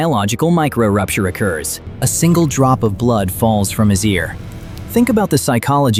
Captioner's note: thoughtful